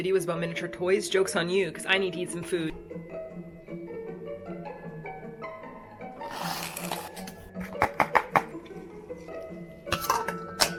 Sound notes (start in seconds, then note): 3.0 gentle music; 7.8 knocking